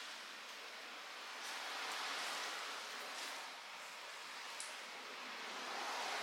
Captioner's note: it's raining so the sound of cars passing by is loud